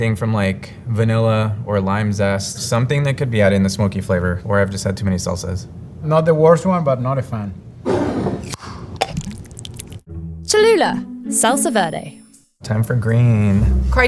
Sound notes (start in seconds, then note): 7.9 jar sliding; 8.0 lid opening; 8.9 salsa pouring